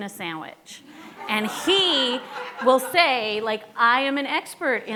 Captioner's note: laughing